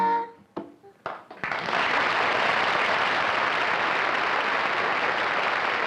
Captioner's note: applause